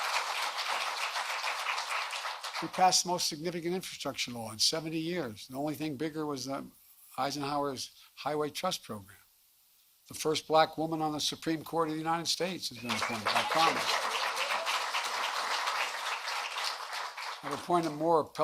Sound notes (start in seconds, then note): 2.4 applause